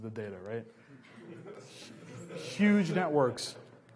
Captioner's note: laughs